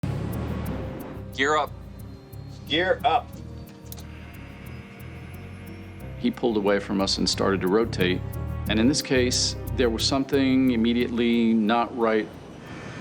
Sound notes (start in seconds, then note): 0.0 suspenseful music; 4.3 hydraulics whirring